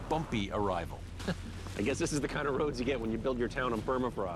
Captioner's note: chuckles